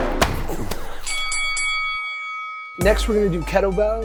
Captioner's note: bell rings